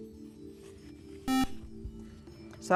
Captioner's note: buzzer